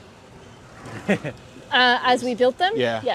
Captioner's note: chuckling